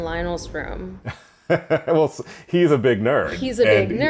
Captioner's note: chuckle